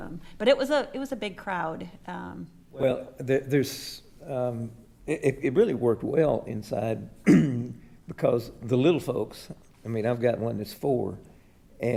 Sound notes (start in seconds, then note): 7.2 clears throat